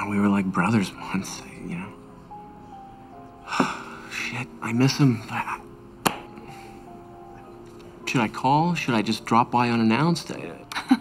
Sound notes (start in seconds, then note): 3.4 sighs